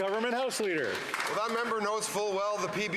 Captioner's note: some Applause